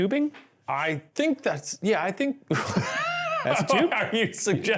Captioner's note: laughs